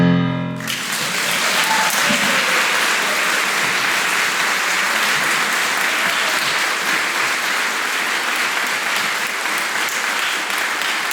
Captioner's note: applause